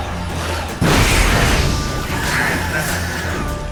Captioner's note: explosion, crackling